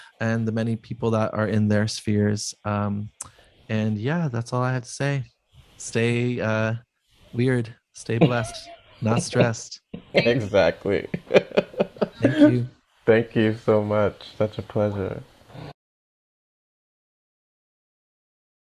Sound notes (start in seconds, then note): 10.2 laughs